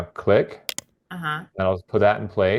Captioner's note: mouse clicking